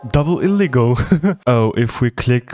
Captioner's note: laugh